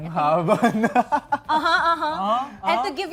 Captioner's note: laughing